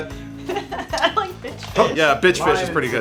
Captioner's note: laughs